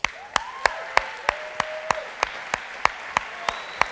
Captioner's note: audience applause and cheers